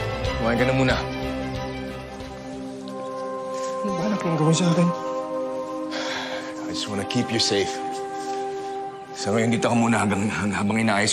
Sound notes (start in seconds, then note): 5.6 exhales deeply